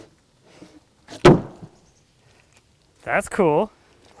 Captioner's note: wood thuds